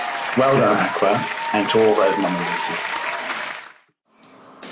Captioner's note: applause